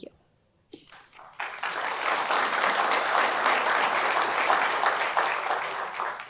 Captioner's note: audience applauding